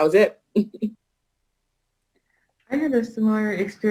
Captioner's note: chuckles